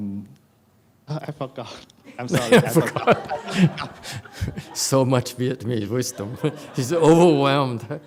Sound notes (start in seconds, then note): 2.1 laughs